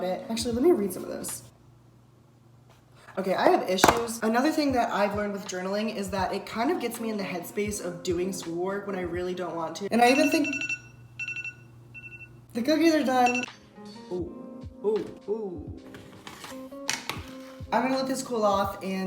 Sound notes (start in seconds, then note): 10.1 beeping